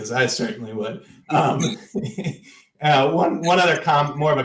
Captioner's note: laughter